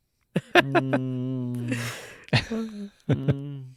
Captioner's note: laughing